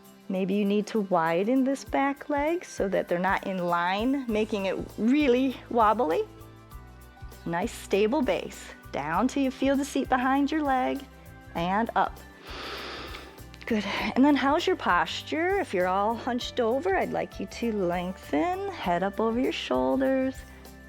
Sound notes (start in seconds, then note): 12.4 inhales